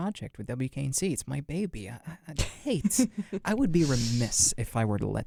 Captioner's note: laughs